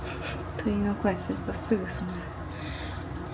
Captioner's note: haha